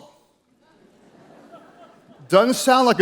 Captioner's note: audience chuckles